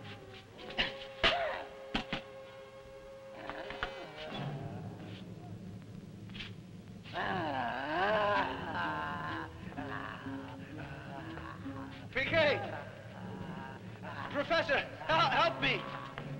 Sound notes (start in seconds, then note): 0.0 Popoca moaning; 0.2 suspenseful music; 7.3 Popoca groaning